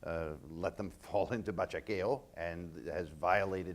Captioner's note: speaking in foreign language